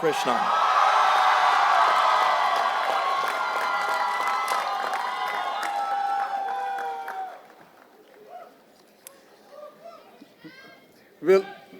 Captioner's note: applause